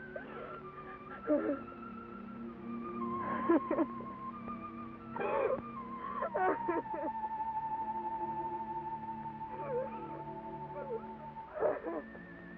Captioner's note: sad music; Nona weeps